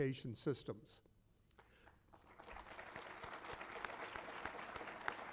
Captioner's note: applause